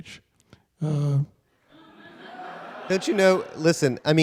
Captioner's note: audience laughter